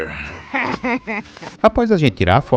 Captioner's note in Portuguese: risadas